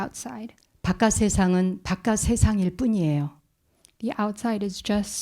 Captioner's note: speaking in Korean